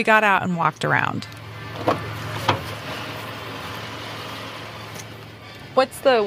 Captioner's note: getting out of car ambi